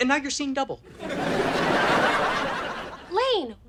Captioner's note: audience laughter